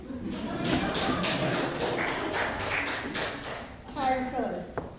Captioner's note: laughter and clapping